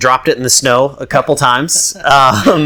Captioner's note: laughs